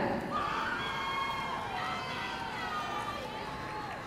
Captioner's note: audience cheering